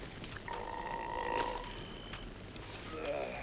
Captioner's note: Torente belches; Torente sighs